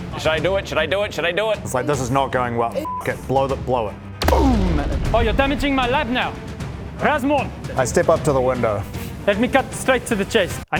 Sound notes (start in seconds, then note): 4.2 boom!